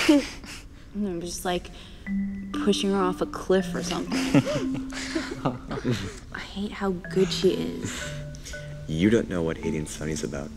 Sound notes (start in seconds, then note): 0.1 group sniggers; 4.0 group laughs